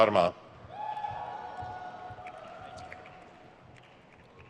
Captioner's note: crowd cheers